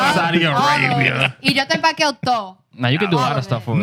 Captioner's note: speaking In Foreign Language